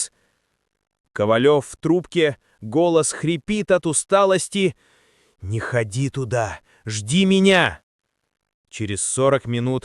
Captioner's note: into the phone, his voice hoarse with fatigue